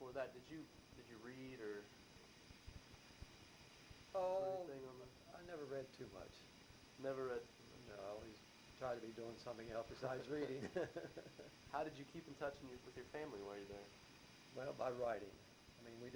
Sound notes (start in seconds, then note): 10.2 laughs